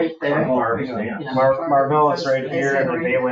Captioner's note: group indistinctly chatting